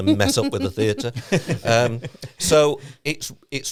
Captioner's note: both laughing